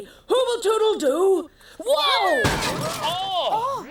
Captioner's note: crashing